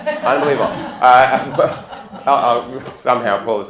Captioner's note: laughter